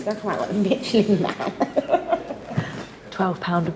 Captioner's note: chuckling